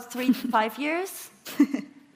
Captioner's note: laughing